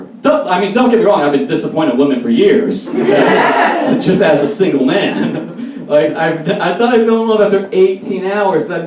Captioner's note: audience Laughs